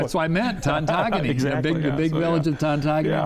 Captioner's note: laughs